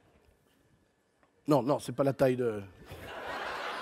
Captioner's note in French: rires